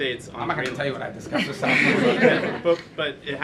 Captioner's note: laughter